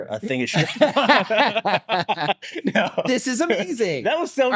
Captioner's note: both laughing